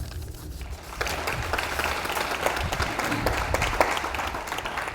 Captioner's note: audience applauds